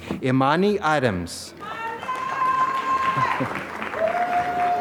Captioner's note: applause